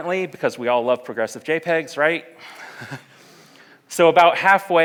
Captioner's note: laughs